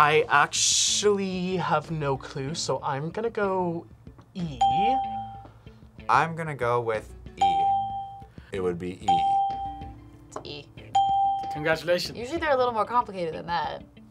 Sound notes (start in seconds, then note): 4.6 bell rings; 7.4 bell rings; 10.9 bell rings